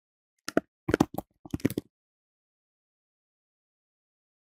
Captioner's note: keyboard typing